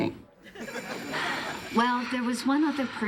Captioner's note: buzzing